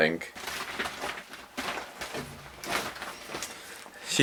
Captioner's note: gross plastic rustling